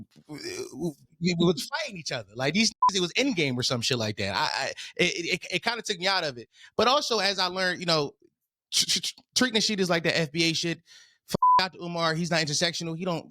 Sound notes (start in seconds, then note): 2.8 beep; 11.4 beep